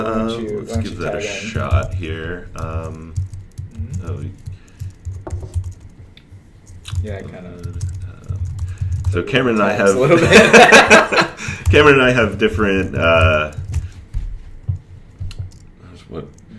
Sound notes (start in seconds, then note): 10.0 laughter